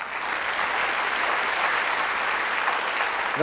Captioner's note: applause